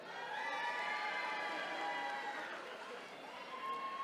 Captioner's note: attendees cheering